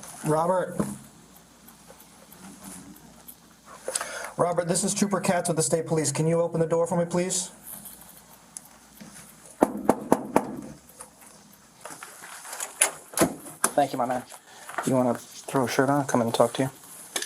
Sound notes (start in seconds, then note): 9.6 knocking